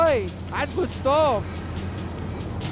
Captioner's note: speaking in foreign language; tires screeching